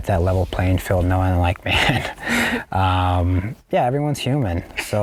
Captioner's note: laughing